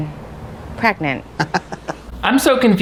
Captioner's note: chuckles